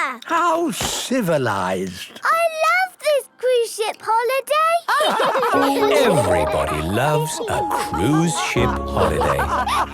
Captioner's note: all laughing